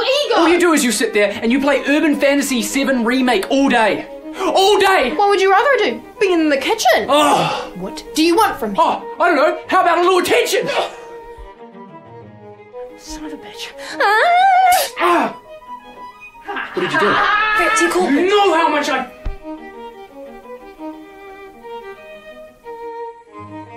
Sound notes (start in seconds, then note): 7.2 breathes out loudly; 14.6 laughs; 19.9 dramatic classical music